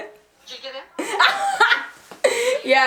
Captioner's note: her Unknown Laughing